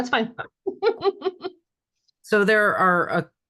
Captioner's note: laughing